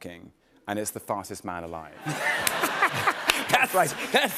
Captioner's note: laughter